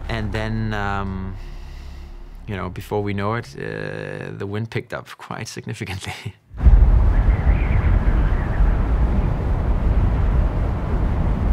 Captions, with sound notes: And then, you know, before we know it, the wind picked up quite significantly. [wind whistling]